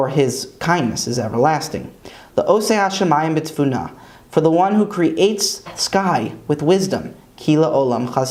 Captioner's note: Hebrew; Hebrew